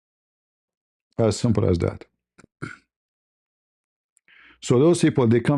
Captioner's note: berdehem